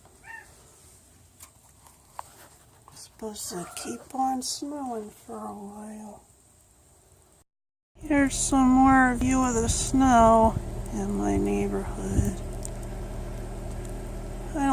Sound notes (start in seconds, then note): 1.9 cat meows